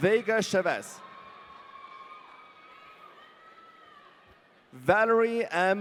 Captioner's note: audience cheering